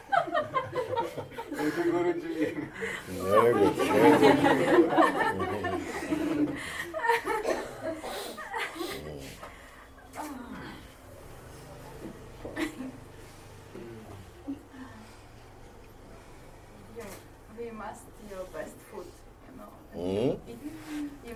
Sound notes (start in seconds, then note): 6.0 laughter